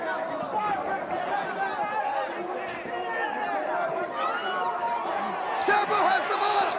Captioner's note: crowd chatter